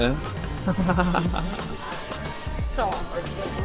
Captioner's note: laughter